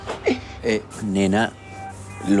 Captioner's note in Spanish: Risas